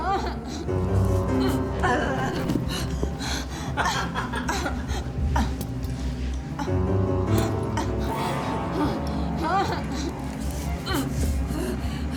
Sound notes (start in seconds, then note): 0.2 Dorothy whimpering; 2.3 body thudding; 2.6 Dorothy gasping; 3.9 Dorothy grunting; 3.9 Oscar laughing